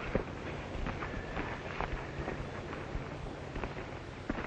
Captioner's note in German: none